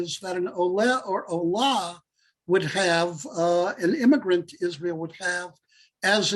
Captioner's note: Hebrew